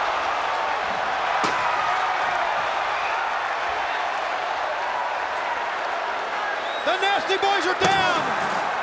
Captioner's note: applause